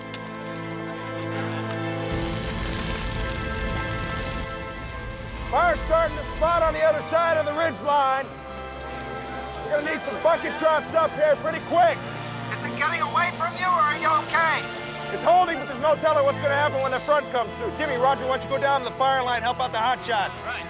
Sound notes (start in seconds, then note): 12.6 Tom Over Radio